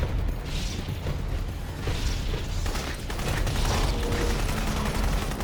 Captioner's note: gunfire